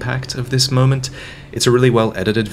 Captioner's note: inhales